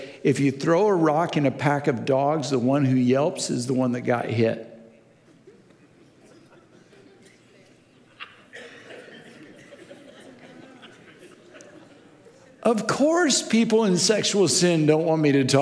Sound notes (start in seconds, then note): 5.5 audience laughing